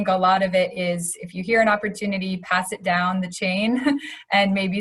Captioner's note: laughs